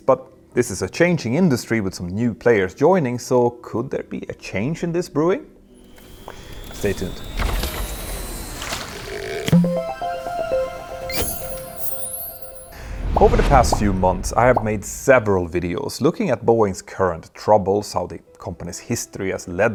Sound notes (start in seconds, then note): 9.4 playful chime